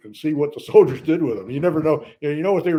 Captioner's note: laughs